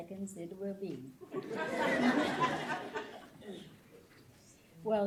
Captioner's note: laughter